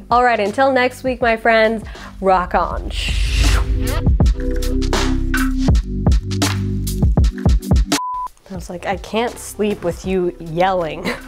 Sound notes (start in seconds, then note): 3.4 smooth music; 7.9 beep